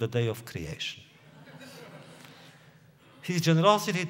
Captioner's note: laughter